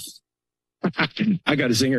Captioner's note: laughter